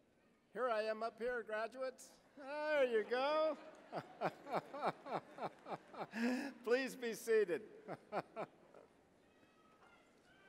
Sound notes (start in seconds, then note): 2.5 laughing; 7.7 chuckling